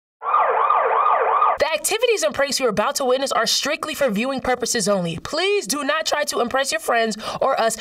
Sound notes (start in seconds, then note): 0.2 sirens wailing